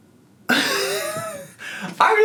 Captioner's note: laughs